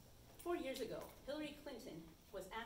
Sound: none

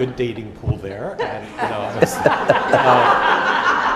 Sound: laughter

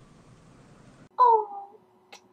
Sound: kisses

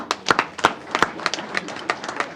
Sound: applause

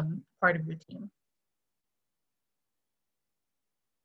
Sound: silence

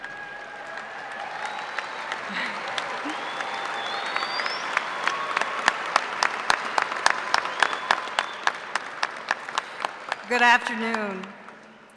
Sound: applause

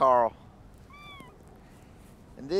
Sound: cat meows

